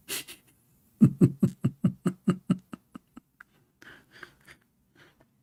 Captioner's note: Ketawa